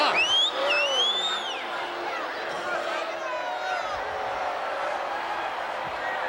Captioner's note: audience cheering and chattering